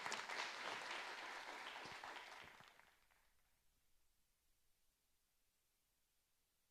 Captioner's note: audience applauding